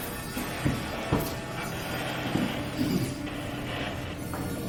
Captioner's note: static humming